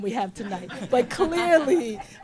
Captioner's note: laughter